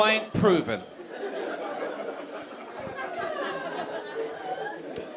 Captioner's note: audience laughing